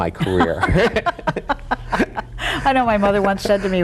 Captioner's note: both laughing